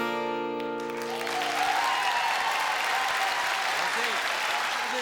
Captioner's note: shouts and applause